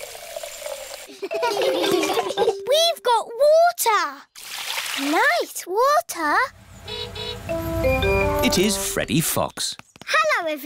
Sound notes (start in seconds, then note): 1.1 laughter; 6.6 horn honking